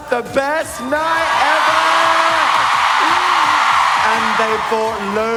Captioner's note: audience cheer